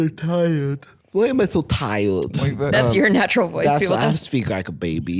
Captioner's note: baby voice